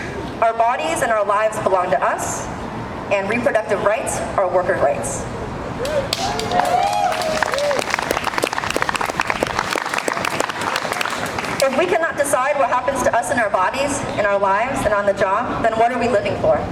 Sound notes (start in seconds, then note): 5.8 crowd cheering